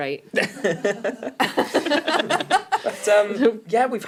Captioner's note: laughing